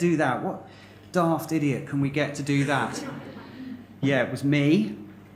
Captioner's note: laughter